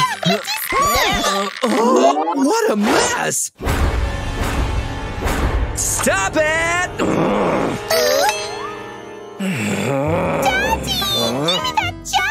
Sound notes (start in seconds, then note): 7.0 grumbles